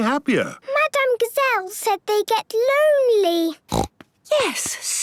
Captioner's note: snorting